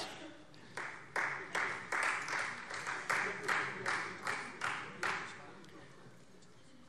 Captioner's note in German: Beifall Freie Demokraten